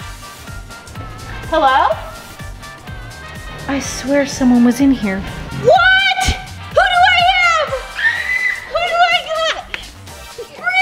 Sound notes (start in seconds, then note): 7.9 child screaming